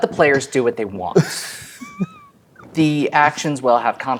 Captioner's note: players laughing